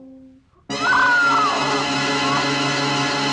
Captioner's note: barbra screams